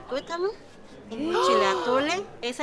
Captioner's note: gasps